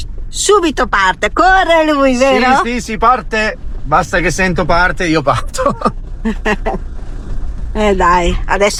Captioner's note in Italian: risate